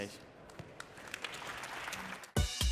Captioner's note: applause